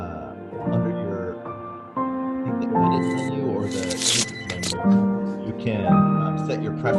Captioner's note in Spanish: speaks faintly